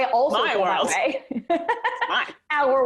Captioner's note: laughs